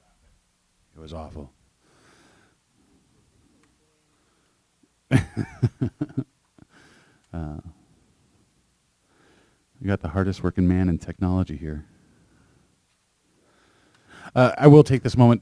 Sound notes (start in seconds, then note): 5.1 chuckles